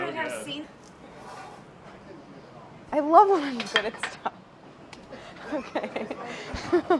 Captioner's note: laughs